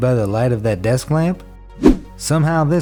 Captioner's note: air whooshes